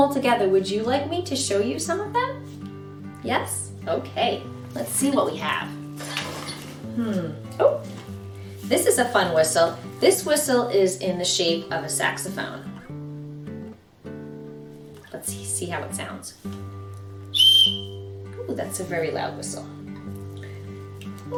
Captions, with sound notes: together. Would you like me to show you some of them? Yes? Okay, let's see what we have. Hmm. Oh! This is a fun whistle. This whistle is in the shape of a saxophone. Let's see how it sounds. (tweet) Ooh, that's a very loud whistle.